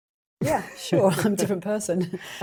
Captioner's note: laughs